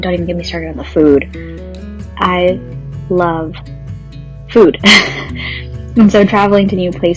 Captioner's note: laughs